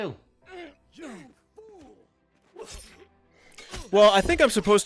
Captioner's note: grunting and sutch